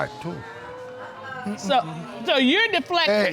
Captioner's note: audience groans